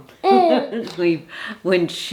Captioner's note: Lottie's grandma laughing